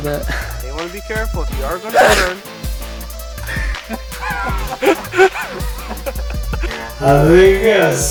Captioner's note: sneezes...LOUDLY